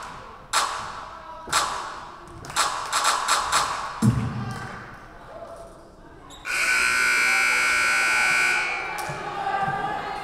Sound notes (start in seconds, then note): 6.4 buzzer buzzing